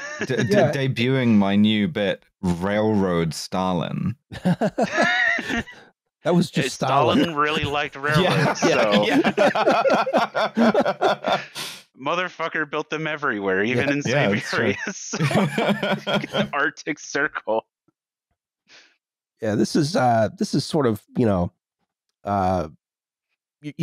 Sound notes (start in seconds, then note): 4.3 laughter; 8.0 laughter; 9.0 laughs; 13.8 laughter